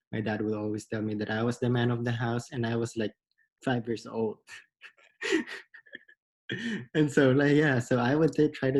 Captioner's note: laughs